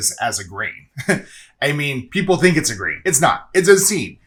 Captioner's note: chuckles